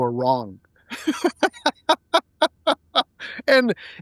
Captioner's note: laughing